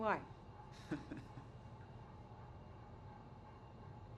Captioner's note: Norman chuckles